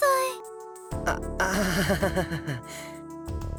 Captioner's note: awkward laugh